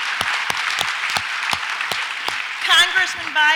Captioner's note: audience applauds